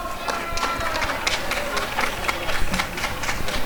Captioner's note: applause and cheering